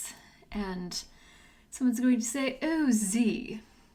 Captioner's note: haughtily